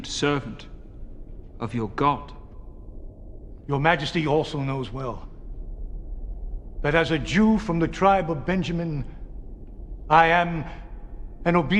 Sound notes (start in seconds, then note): none